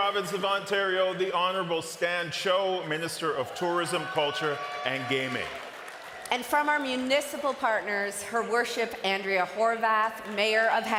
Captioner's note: cheering and applause